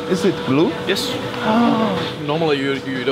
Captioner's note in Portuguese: faz som de surpresa